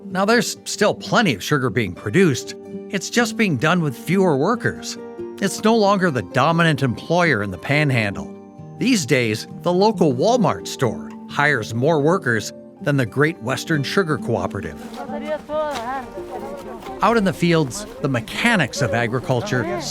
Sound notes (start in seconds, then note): 14.8 people chattering